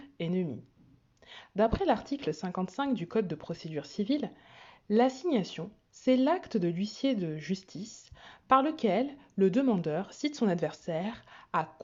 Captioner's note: french